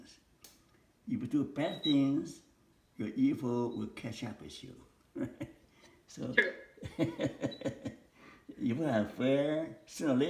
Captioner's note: laughter